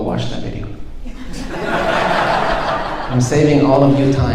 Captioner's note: audience laughing